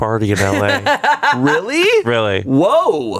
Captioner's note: laughs